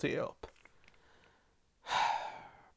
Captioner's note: sigh